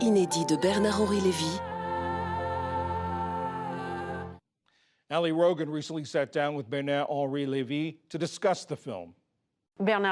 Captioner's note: speaking french